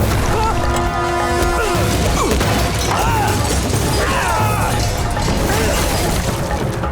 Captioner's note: grunting